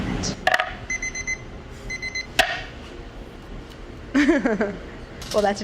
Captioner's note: kitchen timer beeps; baking rack clatters; laughs